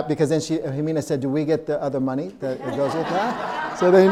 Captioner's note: audience laughing